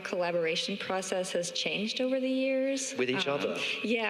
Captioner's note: chuckles